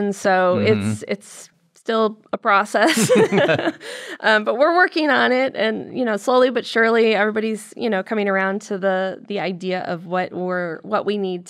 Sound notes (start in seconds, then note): 2.8 laughter